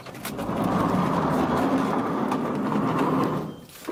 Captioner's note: door sliding